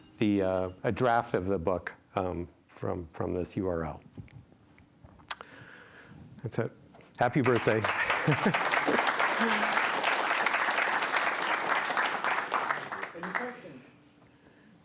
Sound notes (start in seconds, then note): 7.3 applause